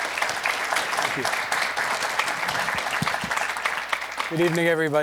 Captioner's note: applause